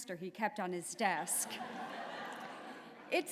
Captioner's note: laughter